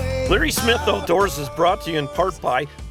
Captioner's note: voiceover